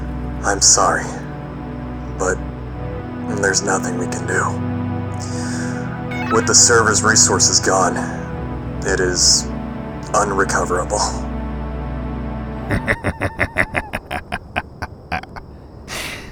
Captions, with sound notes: I'm sorry, but...there's nothing we can do. With the server's resources gone, it is...unrecoverable. [Houston laughs quietly]